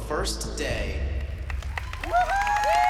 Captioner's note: applause